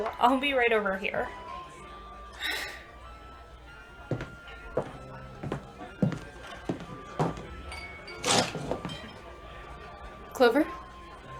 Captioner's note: sighs; footsteps on wood, chair scrapes on floor